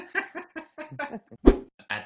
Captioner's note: laughs; whoosh